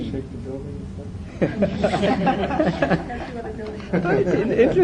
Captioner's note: 众笑